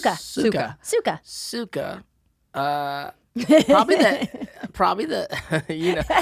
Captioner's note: laughs